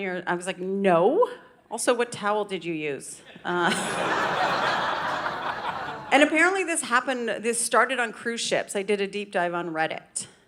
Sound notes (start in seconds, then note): 3.3 audience laughing